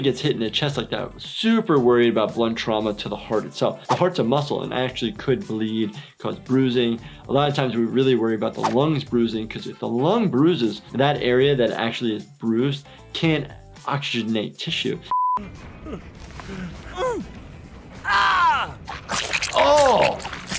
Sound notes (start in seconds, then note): 16.8 character whimpers; 18.9 blood sloshing